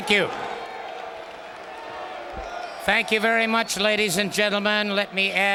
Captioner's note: applause